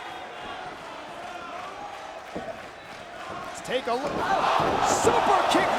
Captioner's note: applause